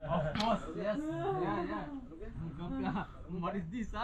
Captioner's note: slovakian Tourists Chat